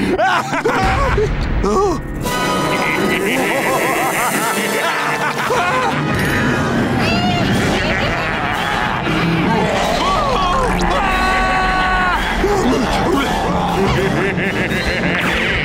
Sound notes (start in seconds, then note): 0.2 screaming; 2.4 evil laughing; 9.9 screaming; 13.7 evil laughing